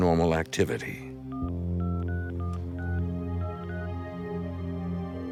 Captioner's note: phone beeping; phone rings